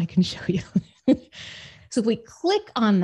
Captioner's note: laughs